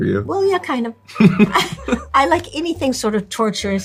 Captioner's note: Lewis laughing